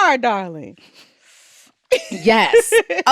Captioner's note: laughs